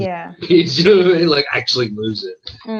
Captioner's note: laughs